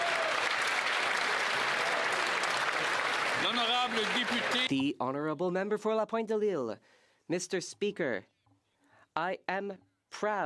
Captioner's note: some Applause